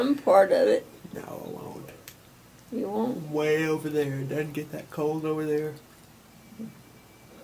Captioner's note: yawns